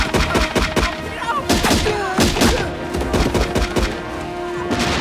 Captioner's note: North Korean Soldiers Yelling